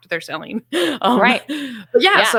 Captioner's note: laughs